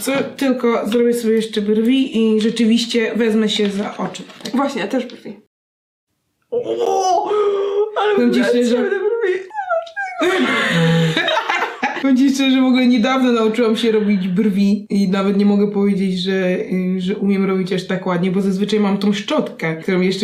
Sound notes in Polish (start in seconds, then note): 10.0 śmiech